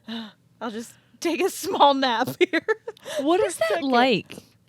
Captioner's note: giggling